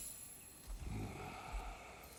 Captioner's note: grunt